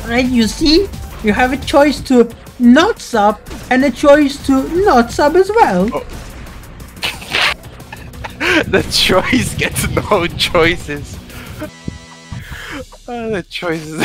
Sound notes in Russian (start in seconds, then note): 0.1 голосом китайца